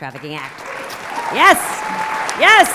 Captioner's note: applause